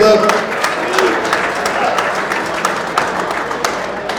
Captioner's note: audience applauds